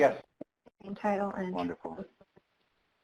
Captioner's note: speaks faintly